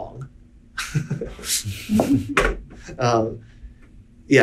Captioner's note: laughing